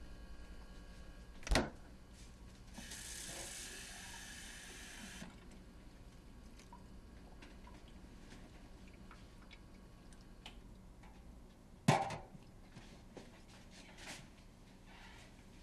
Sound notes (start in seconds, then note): 4.3 water running